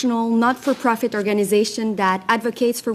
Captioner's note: speaking French